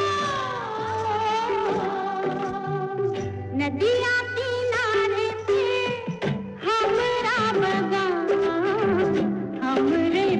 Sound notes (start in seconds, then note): none